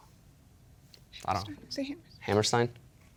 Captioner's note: whispering; whispering